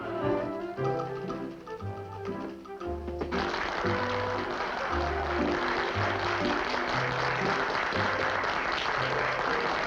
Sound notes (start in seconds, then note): 3.3 applause